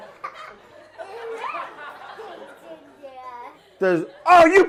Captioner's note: laughing